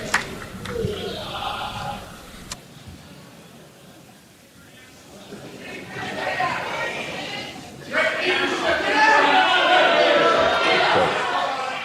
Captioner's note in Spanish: aplausos